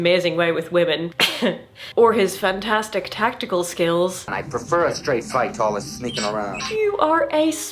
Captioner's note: cough